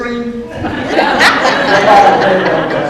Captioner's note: audience laughs